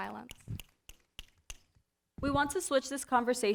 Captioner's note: snapping